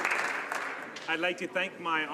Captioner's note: some Applause